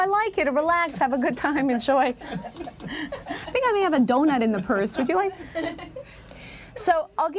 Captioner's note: laughter